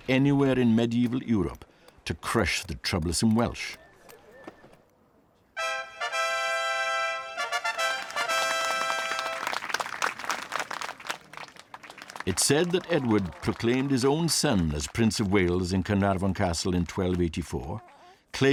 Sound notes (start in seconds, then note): 5.6 fanfare blowing; 7.5 crowd applauding